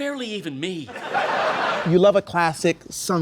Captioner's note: audience laughs